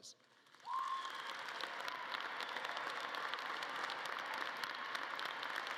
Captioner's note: audience cheering and clapping